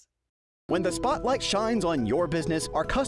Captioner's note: voiceover